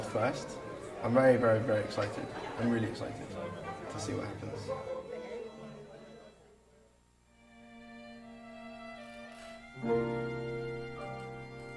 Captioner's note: cheering and Applause